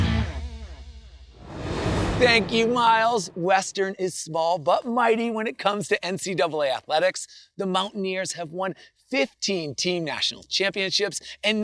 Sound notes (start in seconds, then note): 0.6 transition whooshes